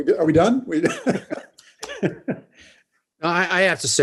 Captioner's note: laughs